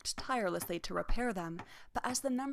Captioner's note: hammer tapping